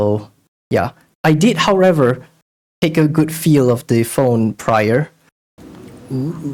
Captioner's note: incoming soft spoken ASMR